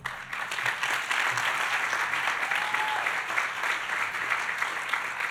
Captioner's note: audience applauding